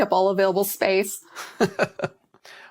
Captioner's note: laughter